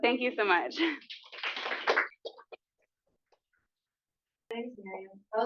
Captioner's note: applause